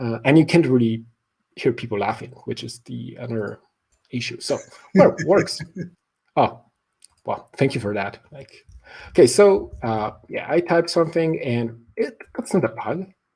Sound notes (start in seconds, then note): 4.5 laughing